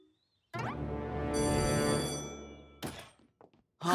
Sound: bell ringing

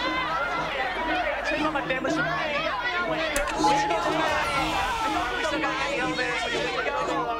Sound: chattering

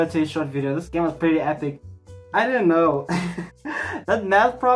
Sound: laughs in embarrassment

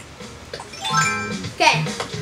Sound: chimes as outfit changes; chimes as ladder appears

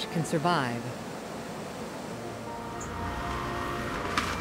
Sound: water plume; wind and boat noises

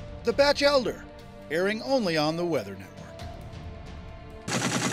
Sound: voiceover

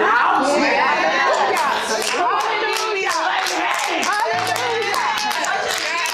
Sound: crowd claps and cheers

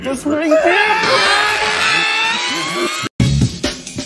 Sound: screams

